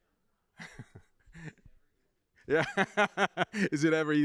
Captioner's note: laughs